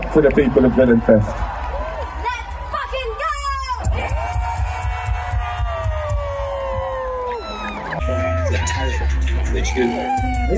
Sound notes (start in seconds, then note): 4.4 cheering